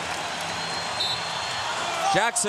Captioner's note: whistle blows